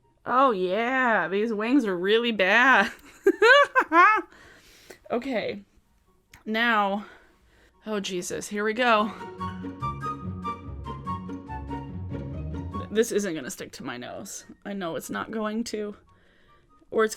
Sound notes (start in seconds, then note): 3.1 laughs; 8.8 bright music